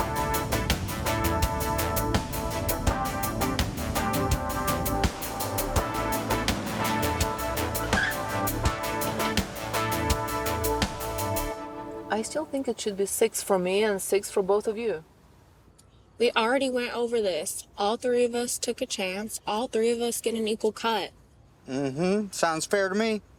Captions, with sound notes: (upbeat synth music continues) (tires screech) I still think it should be six for me, and six for both of you. - We already went over this. All three of us took a chance. All three of us get an equal cut. - Mm-hm. Sounds fair to me.